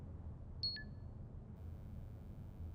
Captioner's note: computer beep